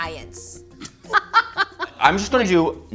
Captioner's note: laughing